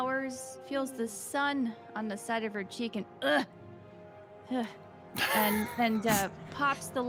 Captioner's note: groans